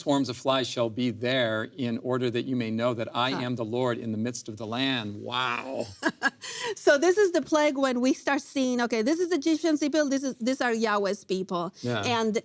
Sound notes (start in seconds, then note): 6.4 laughs